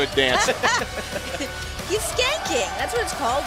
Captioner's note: laughter